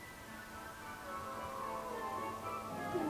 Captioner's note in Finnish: miau